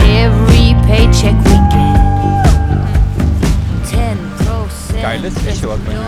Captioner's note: Tina is howling